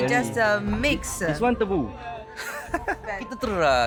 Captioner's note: laugh